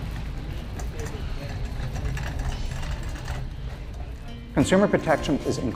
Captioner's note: cart wheels creaking